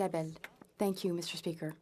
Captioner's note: speaking French